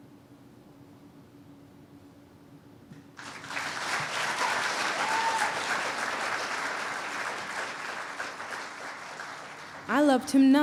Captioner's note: cheers and applause